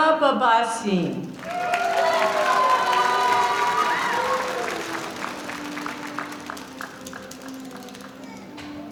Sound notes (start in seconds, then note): 1.3 applause